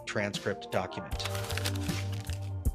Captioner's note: paper rustling